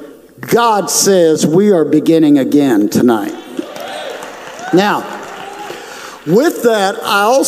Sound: audience cheers

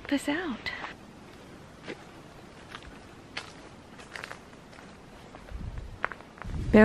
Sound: footsteps

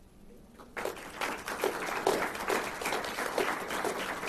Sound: applause

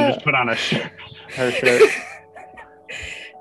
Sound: laughs/wheezes

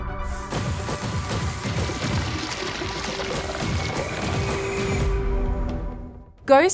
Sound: ethereal music; gun blasting

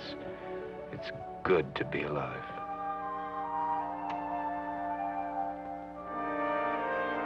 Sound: light switch clicking

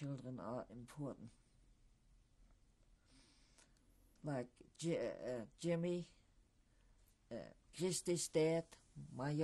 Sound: pauses for 3 seconds

